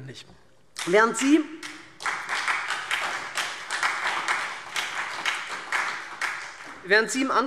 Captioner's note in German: Beifall SPD und DIE LINKE